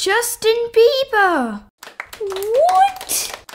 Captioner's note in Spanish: Aplausos